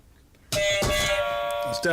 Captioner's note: buzzer